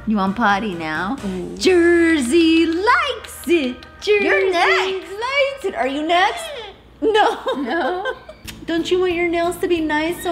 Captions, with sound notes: You want potty now? Jersey likes it, Jersey likes it. - You're next. - Are you next? (bird caws) - No. (laughs) - No. - Don't you want your nails to be nice,